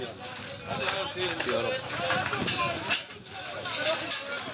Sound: Arabic spoken audio

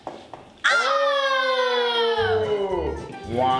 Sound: screams

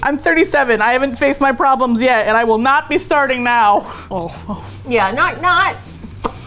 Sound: with disgust; mouth pop

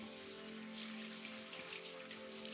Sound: tap running

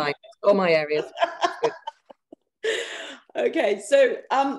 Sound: laughing

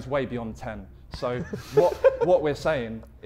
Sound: Vikram and Harry laughing

